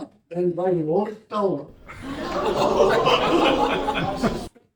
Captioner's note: laughter